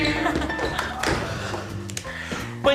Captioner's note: chuckles